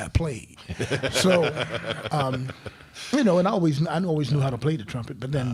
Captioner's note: crowd laughing